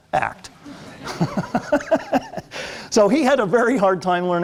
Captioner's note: laughter